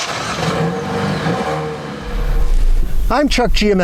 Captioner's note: engine startup